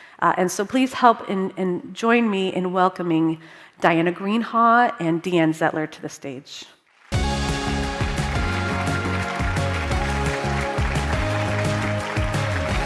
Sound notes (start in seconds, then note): 7.0 crowd clapping; 7.1 upbeat music